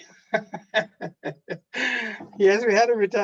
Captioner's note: laughing